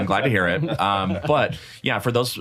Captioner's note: chuckle